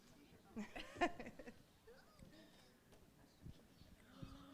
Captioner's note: laughing